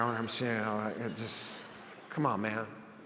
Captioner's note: audience laughs